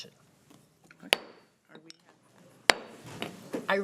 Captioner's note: gavel banging; gavel banging